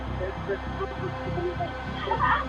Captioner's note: indistinct chatter; woman groans